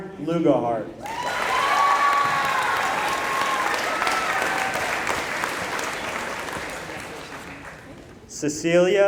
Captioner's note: applause